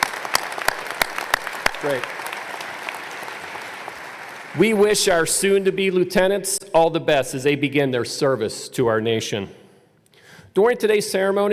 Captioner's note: applause